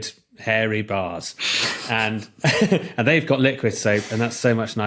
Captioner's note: group cracks up